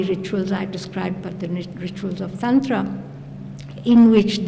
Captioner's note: non-english